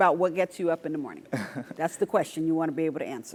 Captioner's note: laugh